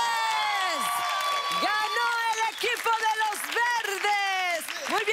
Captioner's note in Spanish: Gritos y exclamaciones